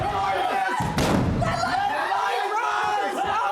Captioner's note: everyone screaming